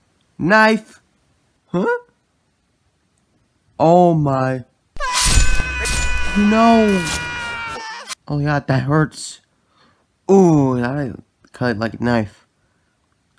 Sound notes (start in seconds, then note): 5.0 screams